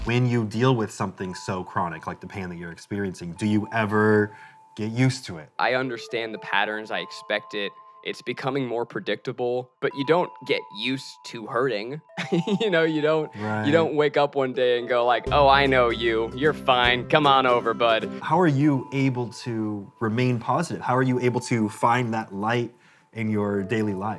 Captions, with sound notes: -When you deal with something so chronic, like the pain that you're experiencing, do you ever get used it? -I understand the patterns I expected. It's becoming more predictable, but you don't get used to hurting [chuckles]. You don't wake up one day and go like, "Oh, I know you. You're fine. Come on over, bud". -How are you able to remain positive? How are you able to find that light in your daily life?